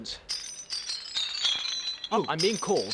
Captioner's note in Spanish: traqueteo de la cadena